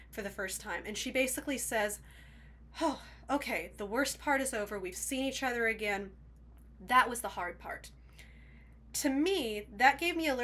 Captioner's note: sigh